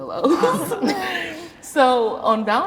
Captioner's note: everybody laughs